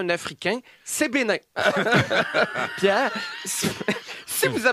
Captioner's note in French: rires